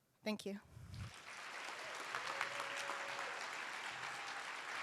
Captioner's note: applause